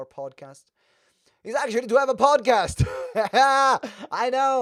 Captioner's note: laughs